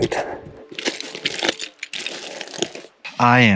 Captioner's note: shoes crunching on gravel